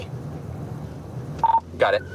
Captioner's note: radio beeps